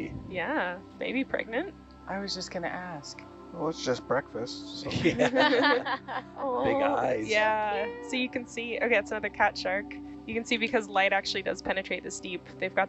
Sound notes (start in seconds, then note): 4.7 laughing